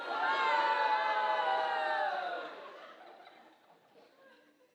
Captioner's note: audience booing and laughing